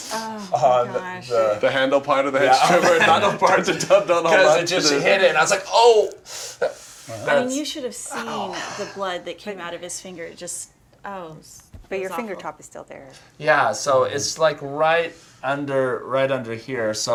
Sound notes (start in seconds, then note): 2.4 laughs; 6.8 gasp